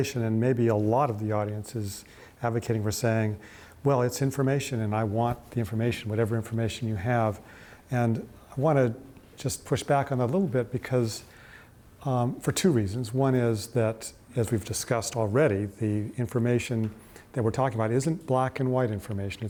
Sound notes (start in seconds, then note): none